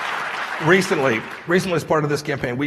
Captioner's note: applause